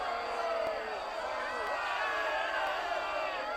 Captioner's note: crowd Sounds